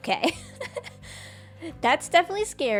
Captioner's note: laughs